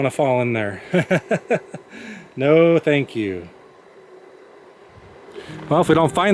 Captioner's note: laughter